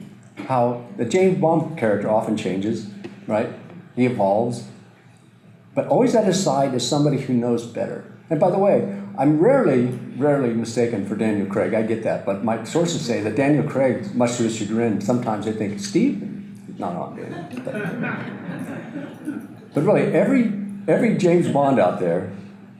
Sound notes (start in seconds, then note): 17.2 audience laughter